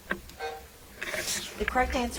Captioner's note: timer buzzing